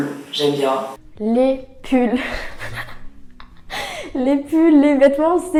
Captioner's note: unexpected laugh